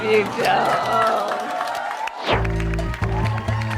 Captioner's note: cheering and applause